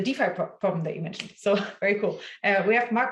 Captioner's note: hands clap